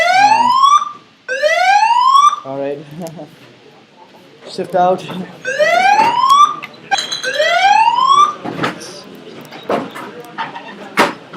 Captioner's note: fire alarm goes off !!